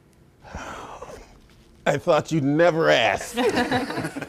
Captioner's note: groans; all laugh